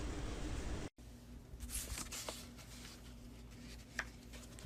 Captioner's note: paper folding